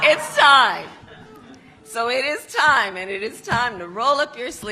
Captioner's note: applause; laughter